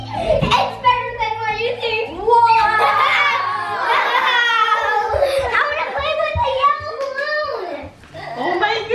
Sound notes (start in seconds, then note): 2.7 laughs